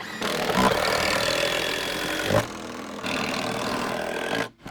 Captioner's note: drills whirring, no additional audio